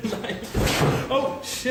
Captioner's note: loud thud